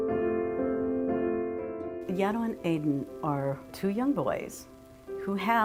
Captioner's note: female voice